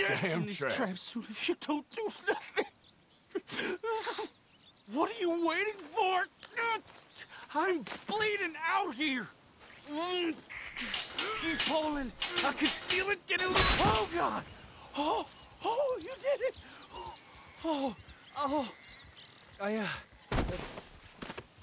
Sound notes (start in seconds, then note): 3.2 starts sobbing; 11.1 grunts